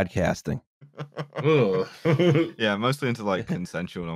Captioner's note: laughs